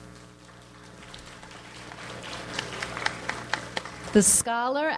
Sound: audience applauds

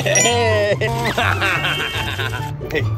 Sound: squeaking; laughing; squeaking

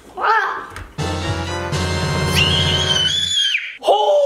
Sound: shrieks

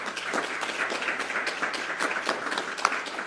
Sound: applause

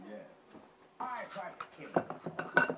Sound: tv noise

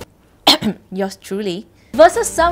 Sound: cough

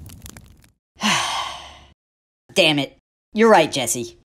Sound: sigh

